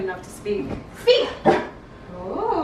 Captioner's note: Harlow barks